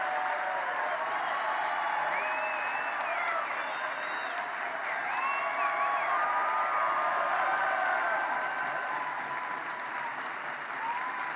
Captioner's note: applause